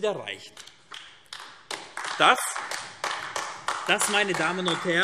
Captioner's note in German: Beifall AfD